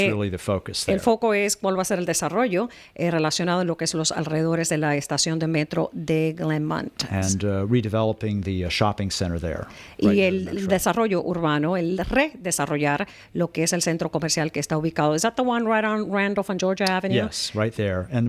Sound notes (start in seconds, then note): 5.5 Hablando ingl\s